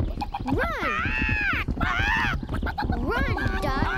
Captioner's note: squawking